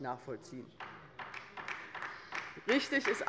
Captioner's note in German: Beifall bei der LINKEN - Zuruf von der FDP